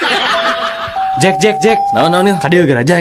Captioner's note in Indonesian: tertawa